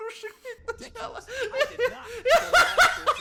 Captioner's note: laugh